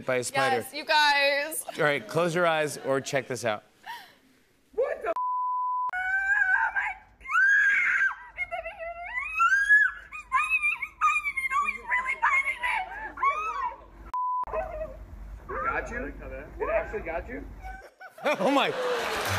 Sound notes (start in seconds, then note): 7.2 screams; 18.4 applause